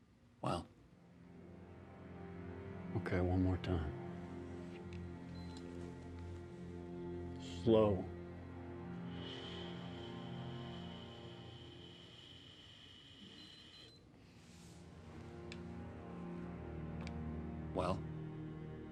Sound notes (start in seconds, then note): 9.2 air hissing; 15.0 breathalyzer beeps